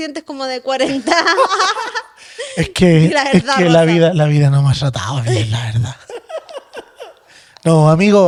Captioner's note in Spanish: risas